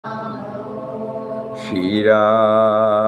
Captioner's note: audience chanting